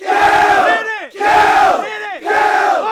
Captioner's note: yelling